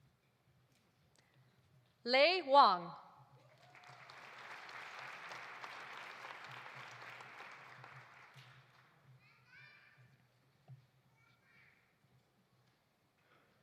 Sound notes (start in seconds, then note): 3.4 audience applauding